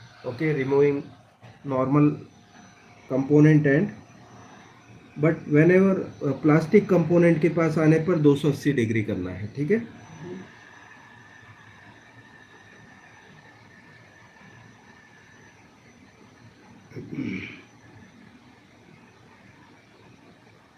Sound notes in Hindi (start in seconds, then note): 16.9 गला साफ़ करने की आवाज़